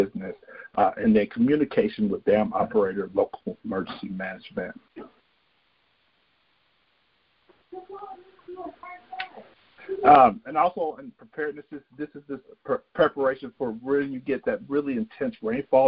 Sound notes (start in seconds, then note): 7.6 murmuring